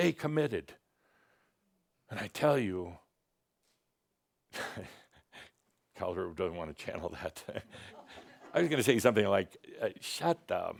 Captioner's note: chuckles; some chuckles